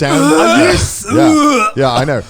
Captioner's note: both retching